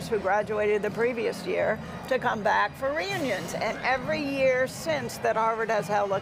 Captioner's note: none